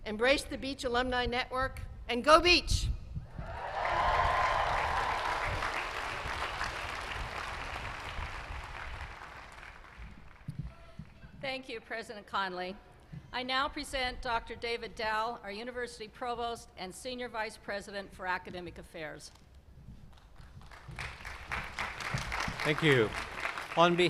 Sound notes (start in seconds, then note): 9.2 applause